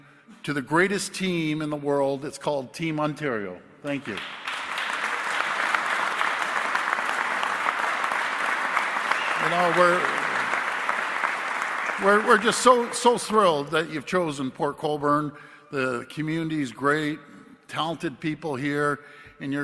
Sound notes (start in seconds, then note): 10.7 applause